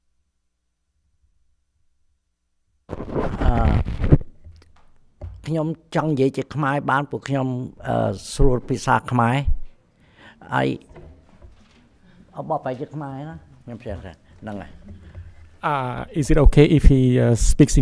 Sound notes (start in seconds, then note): 2.9 mic scratching; 5.3 speaks in Khmer language